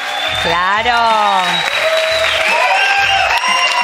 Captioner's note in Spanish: Aplauso